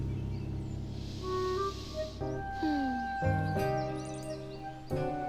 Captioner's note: mom inhaling deeply